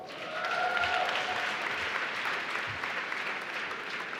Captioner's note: applause